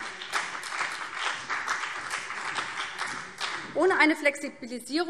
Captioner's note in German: Beifall BÜNDNIS 90/DIE GRÜNEN und CDU